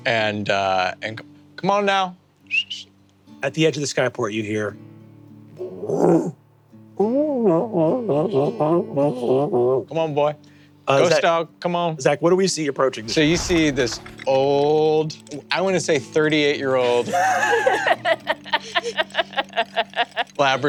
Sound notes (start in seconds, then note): 2.5 whistles; 6.0 barks wearily